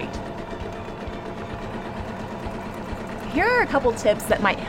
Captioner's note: sewing machine hums